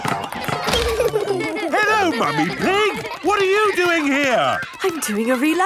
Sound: laughter

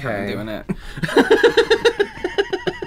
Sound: laughter

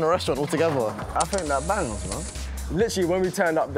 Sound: click

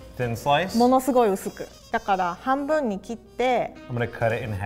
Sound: speaks in foreign language

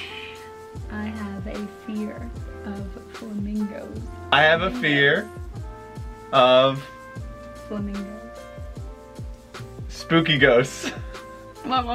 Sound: laughts

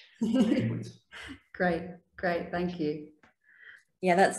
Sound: laughs

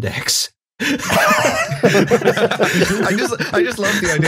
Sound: laughter

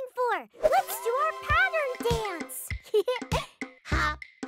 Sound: giggles

